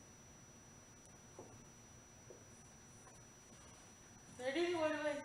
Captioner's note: writing on whiteboard